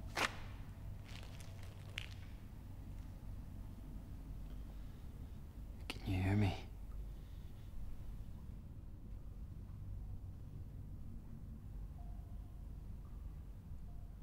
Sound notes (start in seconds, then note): none